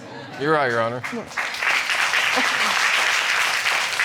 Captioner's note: audience applauding